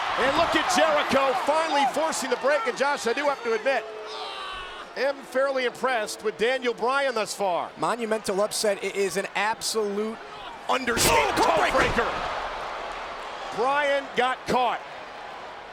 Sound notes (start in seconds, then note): 0.0 Jericho screaming; 4.0 Jericho screaming